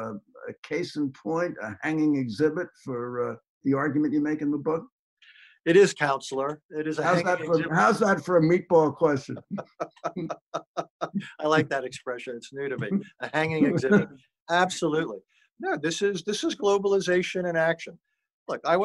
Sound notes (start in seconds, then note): 9.0 laughing